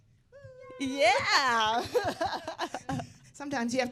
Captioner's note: laughing